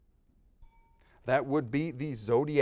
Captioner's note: time bell dinging